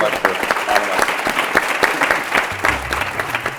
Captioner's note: applause